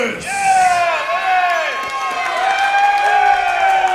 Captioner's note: applause